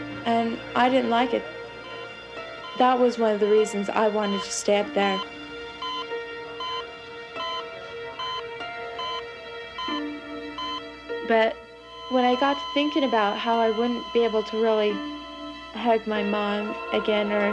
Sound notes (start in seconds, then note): 5.5 beeping; 11.8 flat line